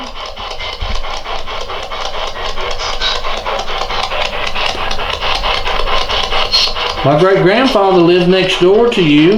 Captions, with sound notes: (static) (clicking) My great-grandfather lived next door to you.